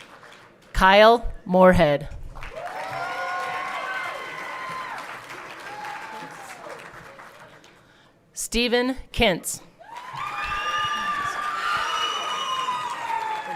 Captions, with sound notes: Kyle Morehead. (everyone cheering) Steven Kintz. (everyone cheering)